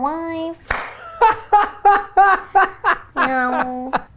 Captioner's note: hands clapping; laughs